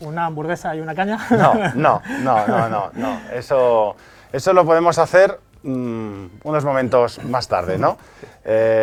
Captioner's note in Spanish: risas